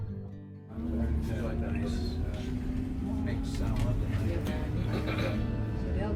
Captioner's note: engine roaring; people chattering